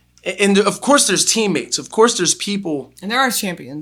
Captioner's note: none